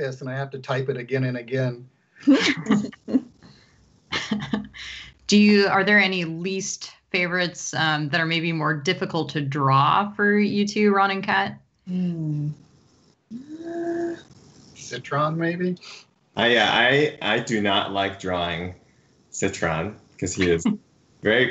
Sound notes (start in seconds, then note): 2.2 laughs